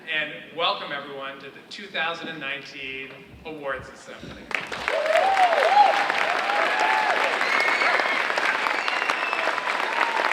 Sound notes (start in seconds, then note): 4.5 audience cheering and applauding